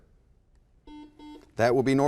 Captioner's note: buzzer